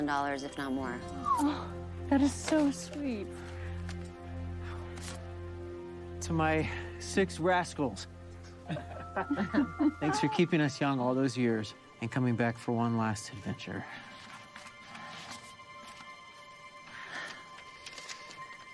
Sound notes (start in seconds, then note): 8.6 all laughing